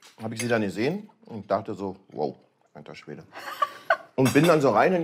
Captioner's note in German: Lachen